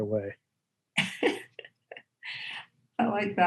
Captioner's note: laughter